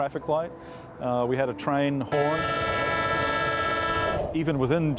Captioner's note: train honking